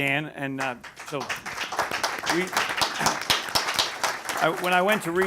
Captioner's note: applause